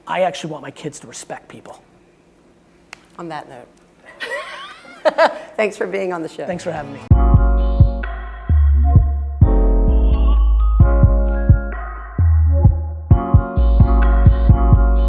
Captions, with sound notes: I actually want my kids to respect people. - On that note, (laughing) thanks for being on the show. - Thanks for having me. (upbeat music)